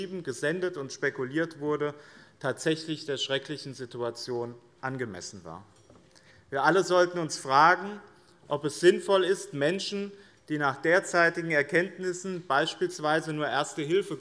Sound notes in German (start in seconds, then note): none